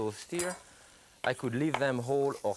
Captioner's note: knife clinks